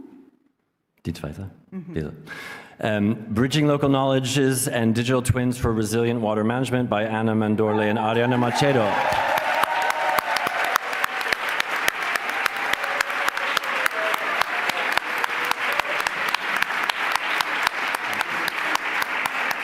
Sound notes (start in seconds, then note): 9.6 applause